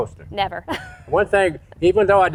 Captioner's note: laughing